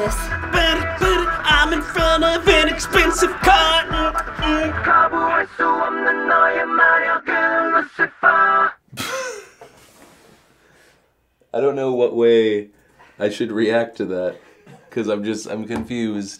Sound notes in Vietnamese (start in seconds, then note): 9.0 cười khúc khích